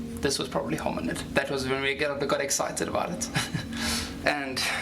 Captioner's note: laughs